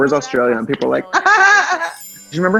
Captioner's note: laughs; chimes; classical music